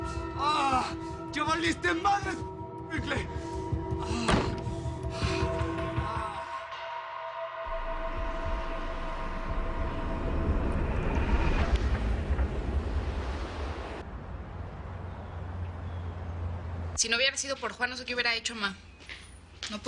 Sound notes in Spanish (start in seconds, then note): 4.2 Portazo